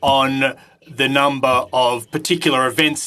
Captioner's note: speaking French